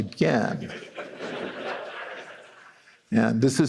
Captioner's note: laughter